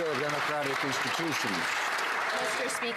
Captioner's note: some Applause